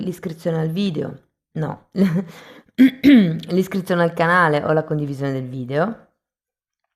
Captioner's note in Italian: schiarire la voce